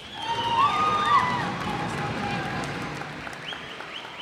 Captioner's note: cheers and applause